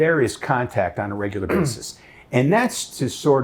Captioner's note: clearing throat